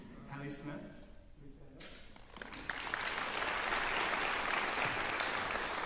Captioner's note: applause